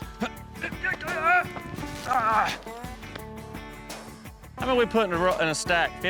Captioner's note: grunting